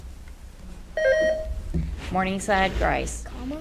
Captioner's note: buzzer beeps